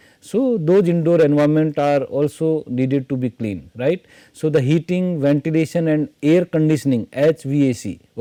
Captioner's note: hvac